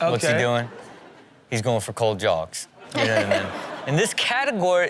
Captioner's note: audience laughs